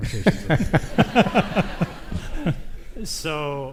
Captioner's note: audience laughs